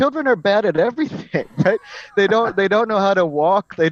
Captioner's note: laugh